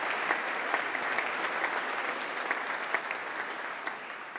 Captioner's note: applause